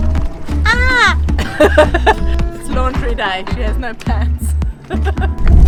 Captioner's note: giggles